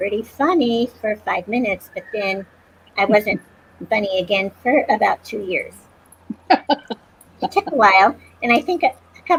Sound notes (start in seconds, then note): 6.3 laughter